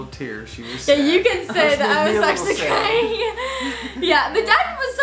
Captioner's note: laughs